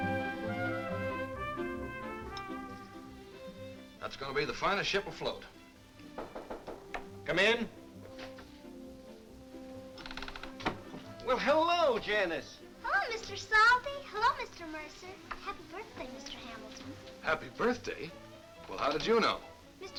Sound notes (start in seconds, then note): 6.1 knocking at door